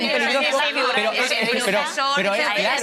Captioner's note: they speak at the time